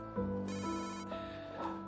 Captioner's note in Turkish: telefon çaliyor